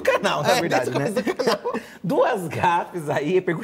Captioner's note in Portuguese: rindo